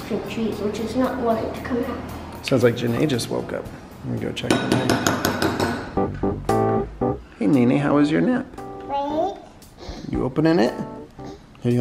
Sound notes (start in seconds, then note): 4.5 spoon banging; 5.8 upbeat keyboard music